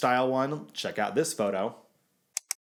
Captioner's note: clicking